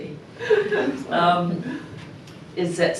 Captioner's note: chuckling